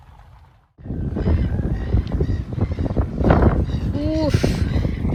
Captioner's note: heavy wind noises